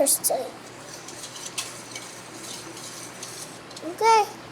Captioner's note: whisk scraping